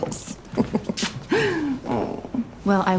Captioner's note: chuckling